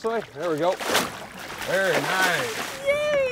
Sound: fish splashing

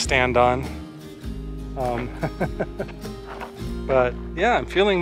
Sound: laughter

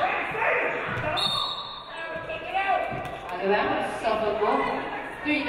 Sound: referee blows whistle

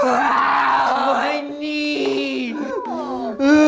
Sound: wailing

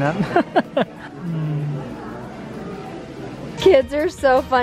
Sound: laughs

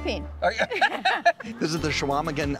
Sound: laughing

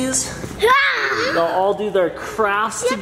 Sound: growls

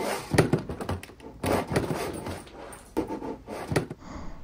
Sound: quieter thuds

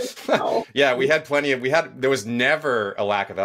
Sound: laughs

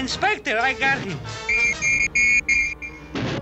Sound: whistling

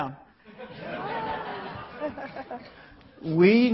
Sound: laughing

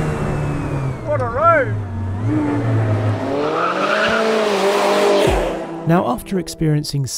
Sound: car squeals

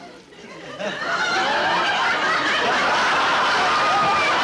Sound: audience laughing

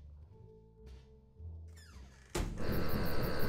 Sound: door gently swings shut; distant chirping

